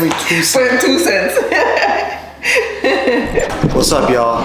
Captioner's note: laughter